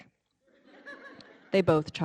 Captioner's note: audience laughing